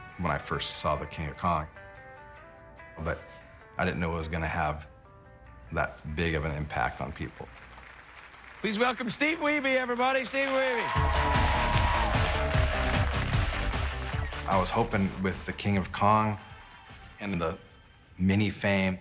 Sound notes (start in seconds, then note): 6.8 applause; 10.8 cheering and applause; 10.9 upbeat music playing